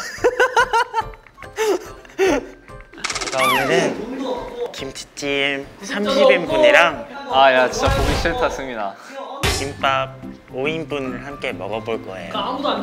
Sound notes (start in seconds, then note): 4.5 A cute tone